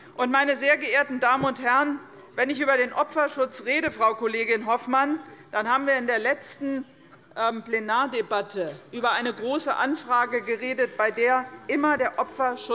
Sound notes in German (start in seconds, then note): none